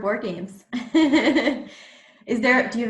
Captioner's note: laughs